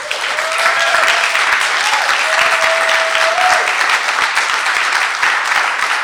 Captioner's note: audience cheering and applauding